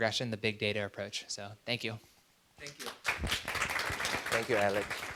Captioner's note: audience applauding